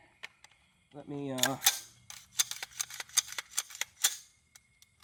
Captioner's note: rifle cocking